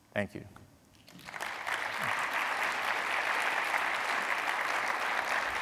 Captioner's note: audience applauding